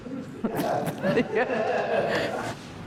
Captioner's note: crew laughs